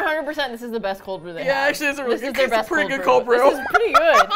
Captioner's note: laughing